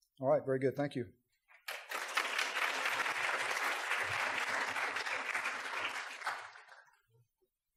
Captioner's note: applause